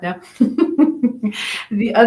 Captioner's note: laughs